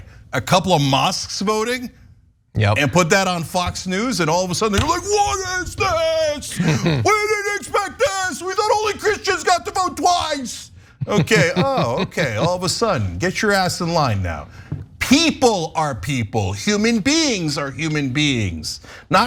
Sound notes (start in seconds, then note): 11.0 laugh